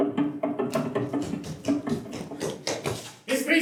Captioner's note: footsteps approaching